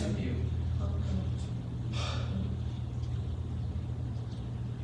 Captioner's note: sighs